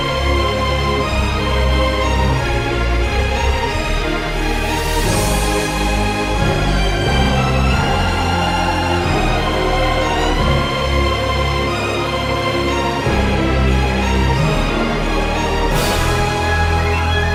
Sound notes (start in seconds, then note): none